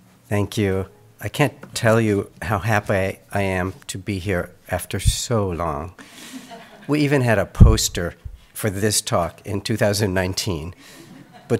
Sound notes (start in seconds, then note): 6.2 audience chuckles